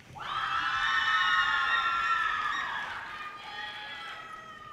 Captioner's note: audience cheers and applause